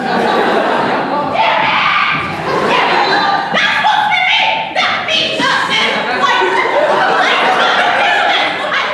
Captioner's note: angry rambling continues